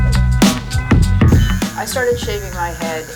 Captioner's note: buzzing